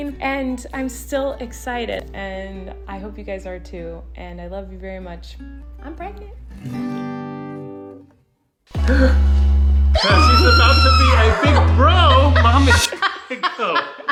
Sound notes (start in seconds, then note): 9.9 people screaming and laughing